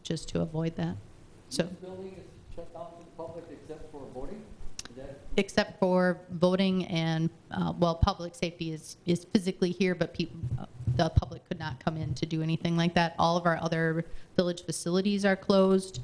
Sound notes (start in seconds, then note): 1.8 man speaking in the background